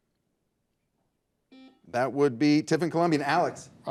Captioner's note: buzzer buzzes